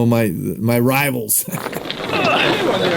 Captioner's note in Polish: śmiech